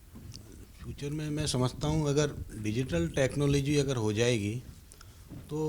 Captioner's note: speaking in foreign language